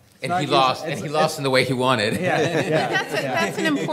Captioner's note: laughing